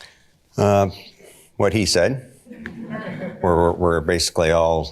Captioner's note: audience laughter